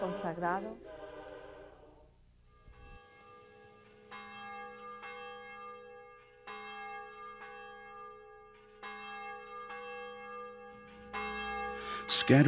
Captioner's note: bells Ringing